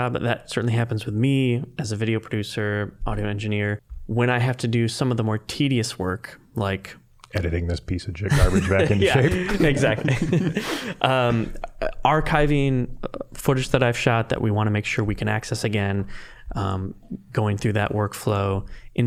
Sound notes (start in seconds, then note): 8.3 laughing; 10.4 all laughing